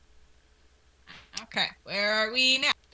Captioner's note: rain softly falls; sneezes